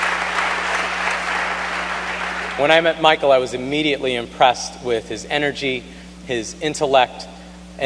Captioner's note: applause